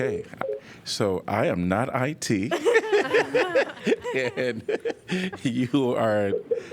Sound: laughter

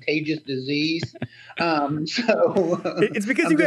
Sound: laughs

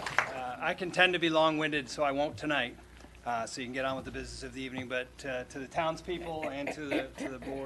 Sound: applause

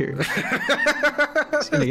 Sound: laughing loudly

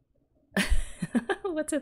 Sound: laughs

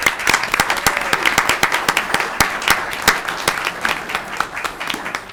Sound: audience clapping

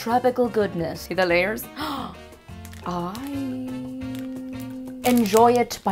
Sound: gasp

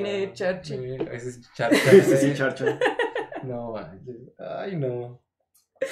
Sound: laughter

